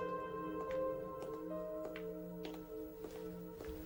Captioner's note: footsteps click